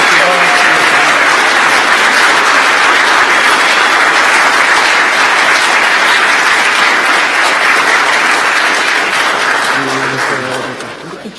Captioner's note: applause